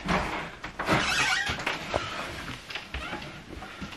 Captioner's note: door opens